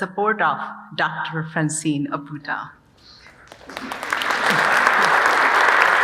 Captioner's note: audience applauding